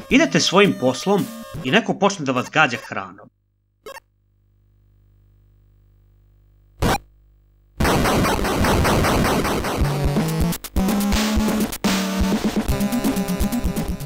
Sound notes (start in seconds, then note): 7.8 8-bit explosion; 9.8 tense music